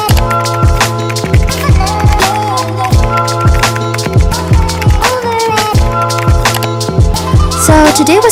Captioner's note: keyboard Clicking & Typing